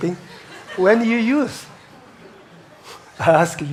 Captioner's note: audience chuckles